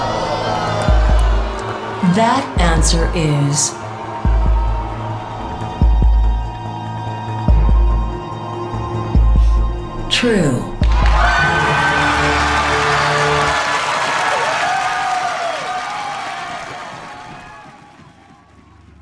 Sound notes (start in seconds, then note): 4.5 tense music; 10.8 audience cheering and applauding